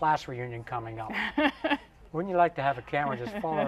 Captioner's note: laughs